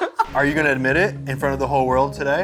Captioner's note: laughter